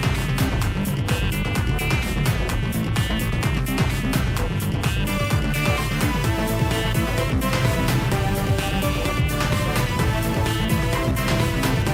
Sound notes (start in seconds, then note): none